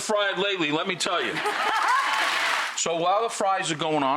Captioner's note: audience applauding